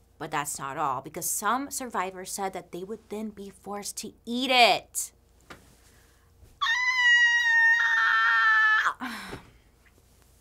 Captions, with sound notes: But that's not all because some survivors said that they would then be forced to eat it. (screams)